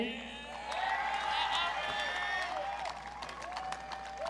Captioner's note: audience cheering